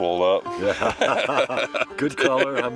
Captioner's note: laughs